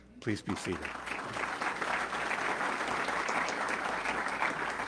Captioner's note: audience clapping